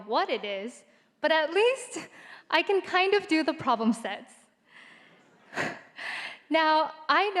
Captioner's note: chuckles